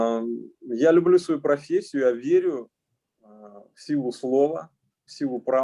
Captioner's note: speaking Russian language